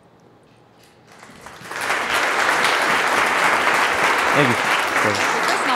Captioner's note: applauding